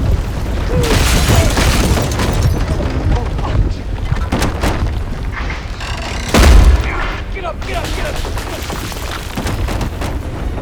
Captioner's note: crashing, glass breaking